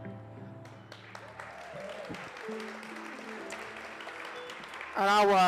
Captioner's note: audience applauds and cheers